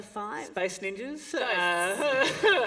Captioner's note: laughter